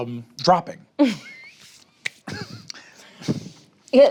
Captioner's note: laughs